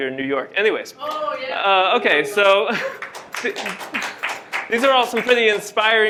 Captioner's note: applause and cheers